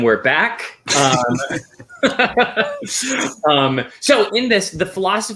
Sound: laughing

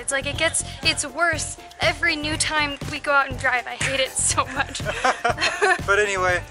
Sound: laughter

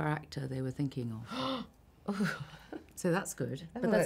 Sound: gasps

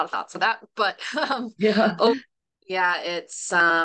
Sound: chuckles

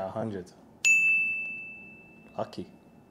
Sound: digital ding

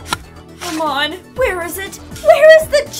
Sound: digging

